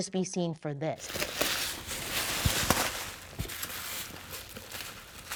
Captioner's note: packaging rustling